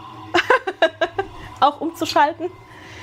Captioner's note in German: gelächter